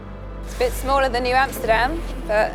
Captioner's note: voiceover